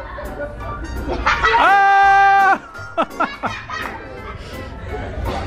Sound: group laughing and yelling

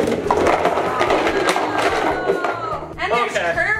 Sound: crashing on the ground

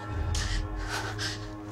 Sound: breathes faster

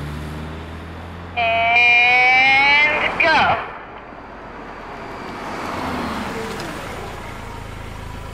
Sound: car noise

